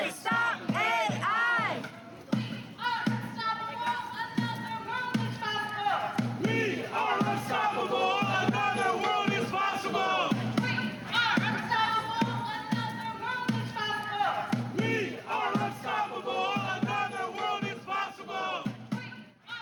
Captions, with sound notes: (chanting) We are unstoppable, another world is possible!